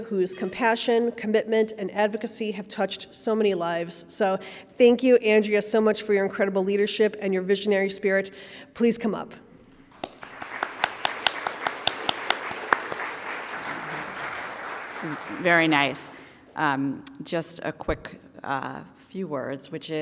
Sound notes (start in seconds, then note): 9.9 audience applauding